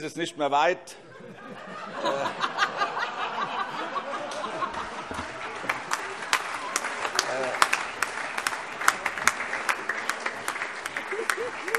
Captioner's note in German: Heiterkeit und Beifall - überreicht ein Weinpräsent